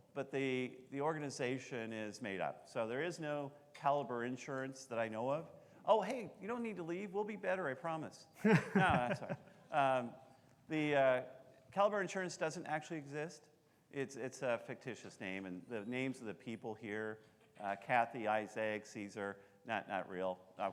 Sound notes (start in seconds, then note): 8.4 laughing